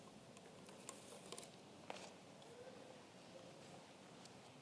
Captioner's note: paper rustling